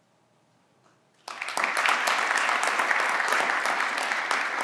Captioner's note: everyone claps